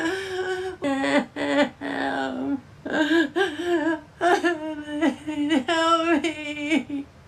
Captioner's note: crying